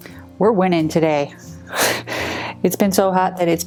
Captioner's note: laughs